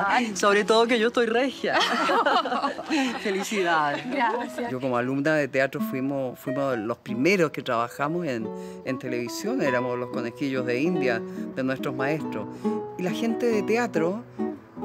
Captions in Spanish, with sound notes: hoy, sobre todo que yo estoy regia, (risas) felicidades. Yo como alumna de teatro, fuimos los primeros que trabajamos en televisión. Éramos los conejillos de indias de nuestros maestros y la gente de teatro